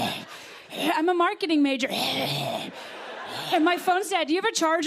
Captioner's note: growling; growling